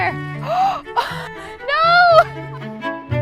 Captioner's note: gasps